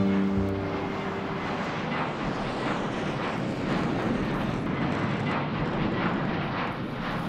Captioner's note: plane engine roars